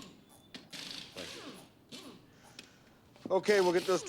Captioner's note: drilling continues